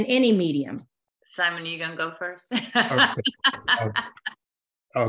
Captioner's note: laughter